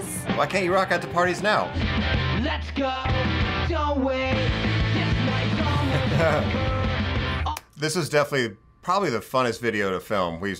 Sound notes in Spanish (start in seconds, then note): 5.6 ambos se ríen